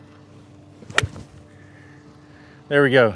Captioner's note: club whips